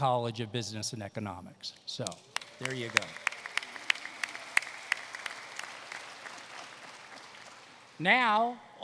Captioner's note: applause